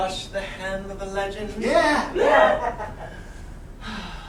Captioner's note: whoops and cheers